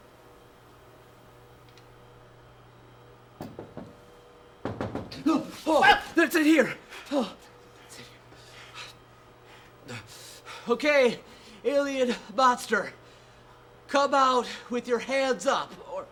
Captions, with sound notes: [Knocking] [Knocking] Whoa! It's in here! Okay, alien monster! Come up with your hands up!